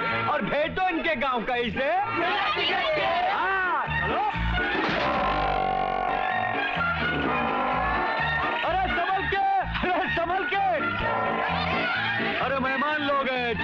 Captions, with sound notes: And sent them to their home town and how...? As wedding guests. - Yes. Come on. (Grunting) Be careful. After all they are our guests.